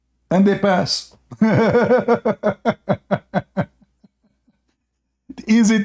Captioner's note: Ketawa